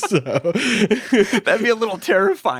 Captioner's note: both laughing